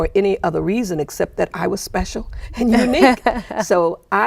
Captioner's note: laughing